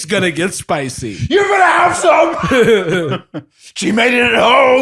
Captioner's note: shouting